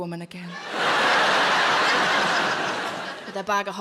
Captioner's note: audience laughs